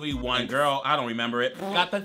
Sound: blows raspberries

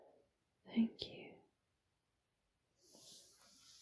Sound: whispers

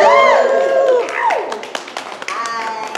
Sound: applause and cheers

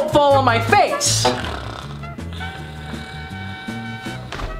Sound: snoring

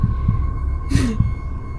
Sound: laughs

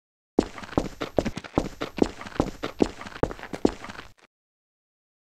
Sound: footsteps

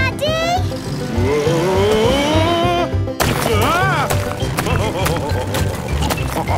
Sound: laughing

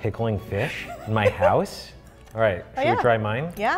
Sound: laughs

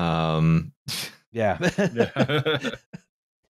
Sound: laughter

